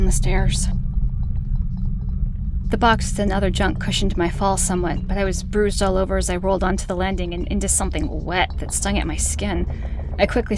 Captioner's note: rattle fades out